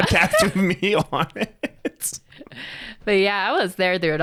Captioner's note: both laughing